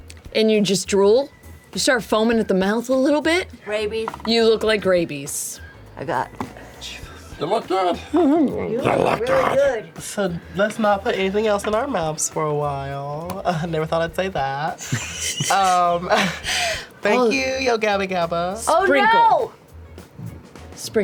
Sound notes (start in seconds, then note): 14.8 laughter